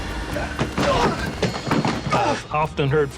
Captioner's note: grunts